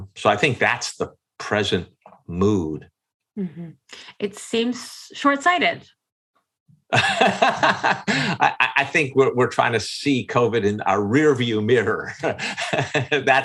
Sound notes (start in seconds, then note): 6.9 laughs